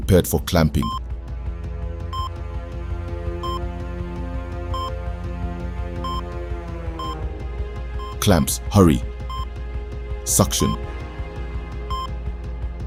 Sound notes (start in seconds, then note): 0.6 dramatic music; 3.4 heart monitor beeping